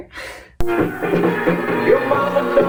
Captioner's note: funky 80s music; laughs